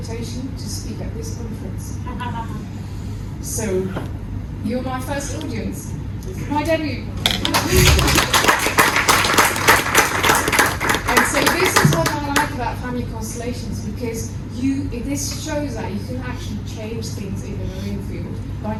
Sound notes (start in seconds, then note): 7.4 clapping